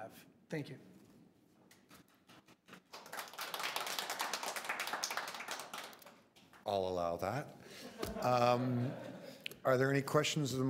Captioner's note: applause